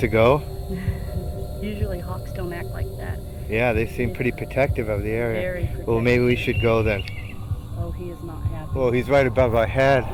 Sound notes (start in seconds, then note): 6.3 hawk screeching